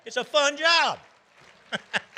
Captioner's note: audience applauding; laughing